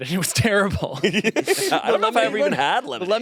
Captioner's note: laughs